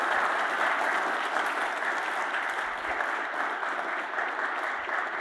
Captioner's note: audience applauds